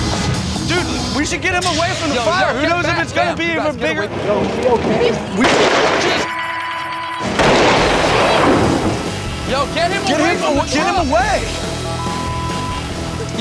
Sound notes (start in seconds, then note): 5.4 explosion; 11.9 beep